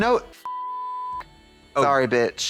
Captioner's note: beep